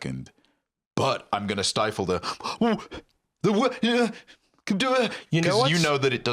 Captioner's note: panicked defensive stammering